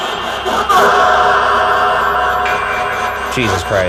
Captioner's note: REM-Pod beeping